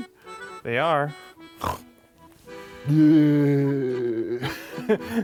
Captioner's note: snort